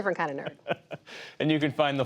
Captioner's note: laughter